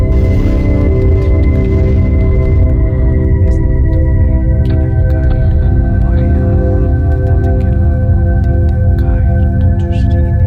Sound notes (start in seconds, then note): 1.9 dramatic music; 1.9 speaker whispering